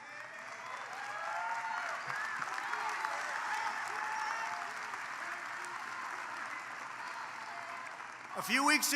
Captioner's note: applause